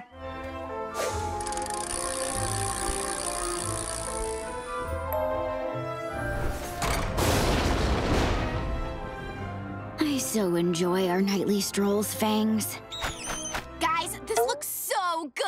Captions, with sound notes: [dinging] [thundering] I so enjoy our nightly strolls, Fangs. Guys, this looks so good.